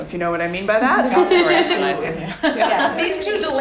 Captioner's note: laughter